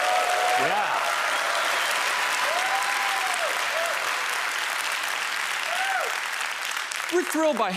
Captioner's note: applause